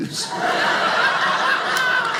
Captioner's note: audience laughing